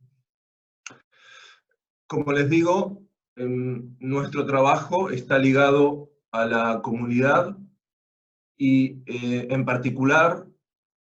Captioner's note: Spanish